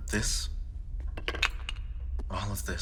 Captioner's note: wooden statue hits table